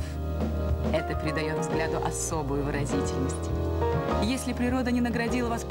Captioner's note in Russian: none